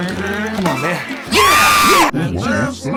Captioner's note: Sad Satan screams